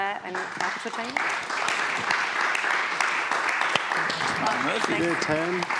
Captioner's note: audience applauds